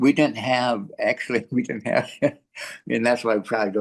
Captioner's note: laughs